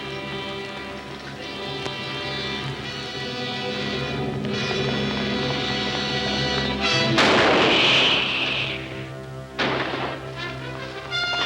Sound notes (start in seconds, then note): 7.1 gun firing